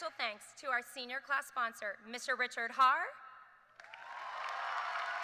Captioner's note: cheers and applause